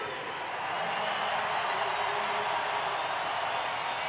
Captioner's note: crowd cheering